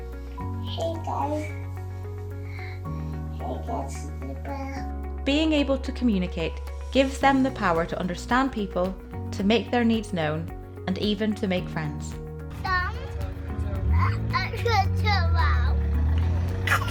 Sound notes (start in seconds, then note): 3.4 babbles; 16.6 giggles